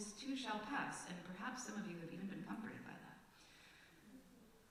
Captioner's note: wryly